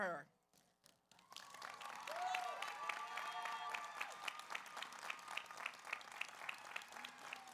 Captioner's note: audience applauds; audience cheers